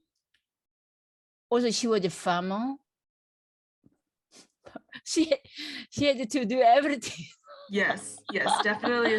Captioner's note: laughs